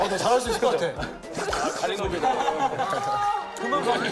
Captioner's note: slurp